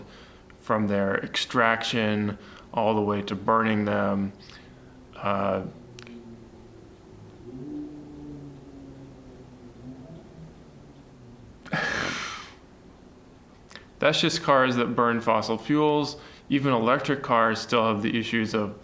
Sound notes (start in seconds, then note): 6.3 car with noisy engine goes; 11.6 scoffs